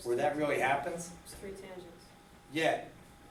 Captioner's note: voiceover